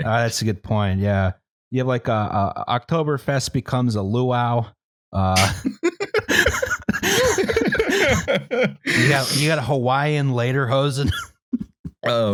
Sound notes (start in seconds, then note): 5.3 laughter